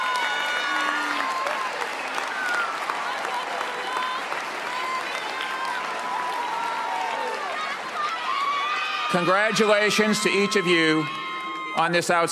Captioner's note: cheers and applause